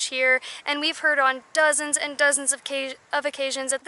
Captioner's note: none